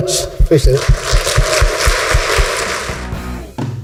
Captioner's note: applause